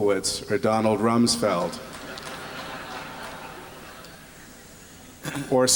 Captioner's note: laughter